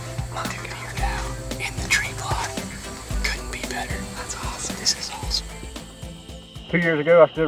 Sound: whispering

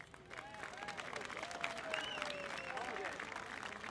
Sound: audience applauding

